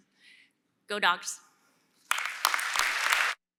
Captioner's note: applause